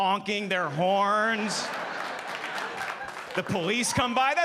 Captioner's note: audience applauding